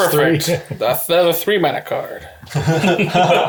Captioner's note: all laugh